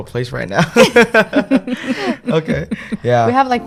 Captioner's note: laughing